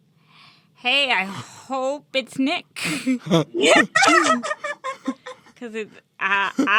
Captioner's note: all laugh